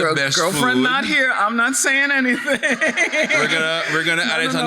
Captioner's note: laughs